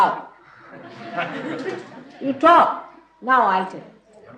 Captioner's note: laughter